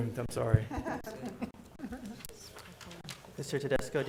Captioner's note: chuckling